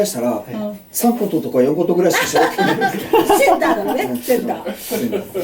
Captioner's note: laughs